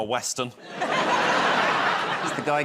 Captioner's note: laughter